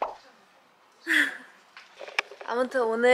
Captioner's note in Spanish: jajaja